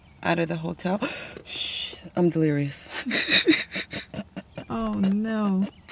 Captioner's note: laughs